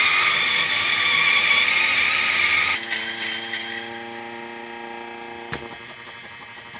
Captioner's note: coffee grinder whirring